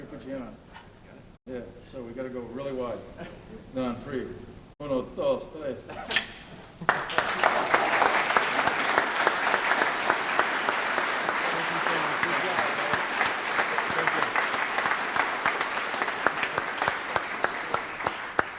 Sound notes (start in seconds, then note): 6.0 scissors snip loudly; 10.0 audience applauds